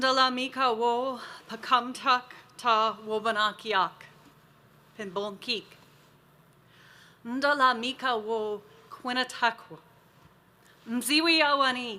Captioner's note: continues to speak Native American language